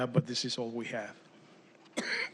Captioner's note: speaking spanish